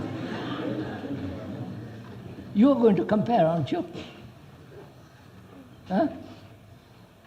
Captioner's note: laughter